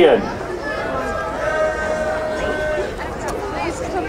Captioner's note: crowd cheering